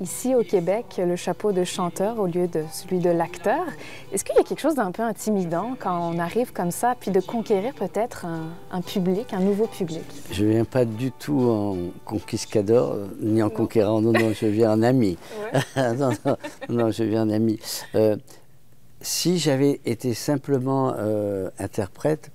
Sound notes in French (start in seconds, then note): 15.4 rires